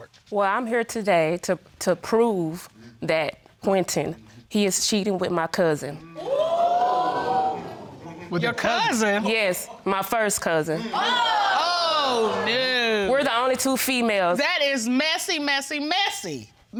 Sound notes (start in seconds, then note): 4.3 audience gasps; 10.8 audience exclaiming